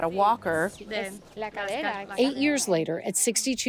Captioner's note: doctor speaking in foreign language